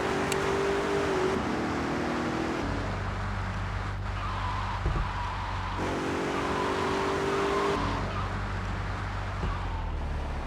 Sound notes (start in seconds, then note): 2.1 car engine roaring